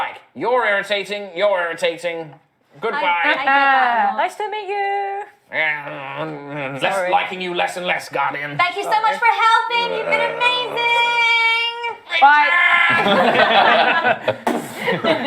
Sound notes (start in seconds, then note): 5.6 disgruntled sounds; 8.9 shouting; 13.5 door slamming sounds